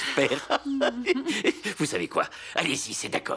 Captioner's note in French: rires